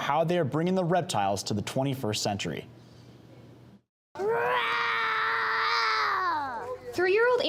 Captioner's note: roaring